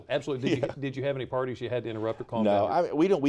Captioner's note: laughter